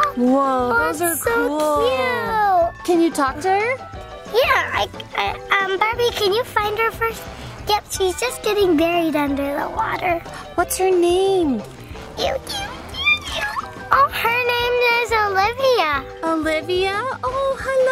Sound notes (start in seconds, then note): 12.2 Adley squeaking